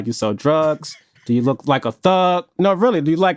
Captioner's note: chuckling